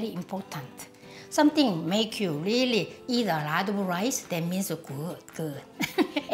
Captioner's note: laughs